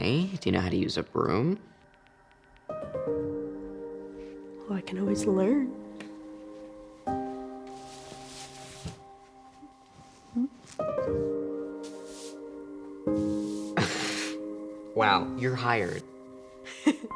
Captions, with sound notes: - Okay, do you know how to use a broom? - Well I can always learn. (soft piano music) (chuckles) - Wow. You're hired.